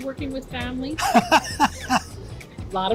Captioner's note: laughs